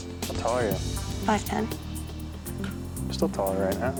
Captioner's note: shimmering tone